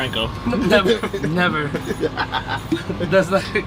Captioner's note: name laughing